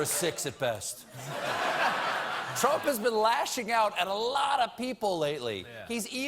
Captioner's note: laughter